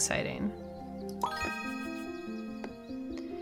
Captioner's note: bling sound